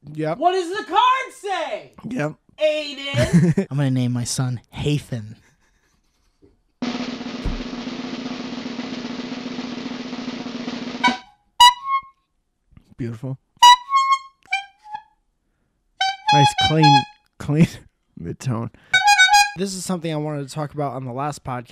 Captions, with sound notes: "What does the card say?" yep Aidan? I'm gonna name my son... Haythan *drum roll* *horn* Beautiful *various horn sounds* Nice, clean... clean midtone *double honk* this is something I wanted to talk about on the last podcast